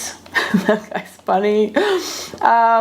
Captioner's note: laughs